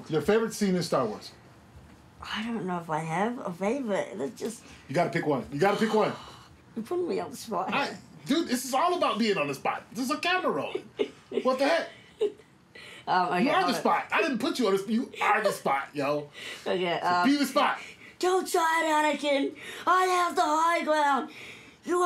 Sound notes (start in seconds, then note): 5.7 sighs; 10.5 chuckles